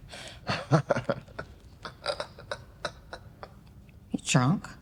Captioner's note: Oliver laughing